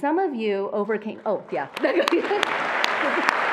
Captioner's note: attendees applauding; attendees applauding quietly; laughs